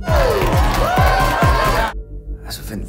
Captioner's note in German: Party Geräusche